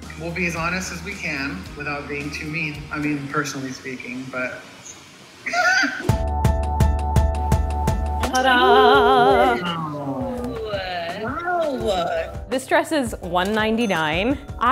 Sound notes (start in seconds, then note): 5.4 laughing; 6.1 upbeat music